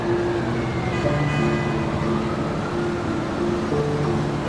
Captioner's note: horns honking